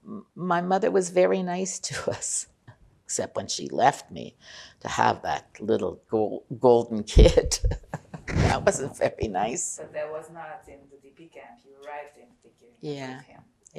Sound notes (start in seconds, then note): 7.5 laughing